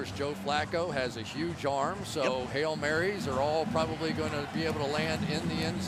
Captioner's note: pa announcement